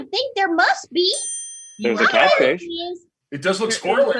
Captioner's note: ding